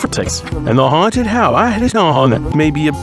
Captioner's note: it plays again in reverse